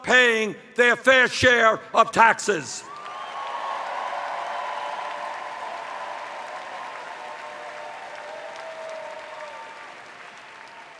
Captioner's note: cheers